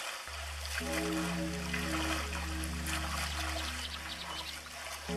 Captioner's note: church bells tolling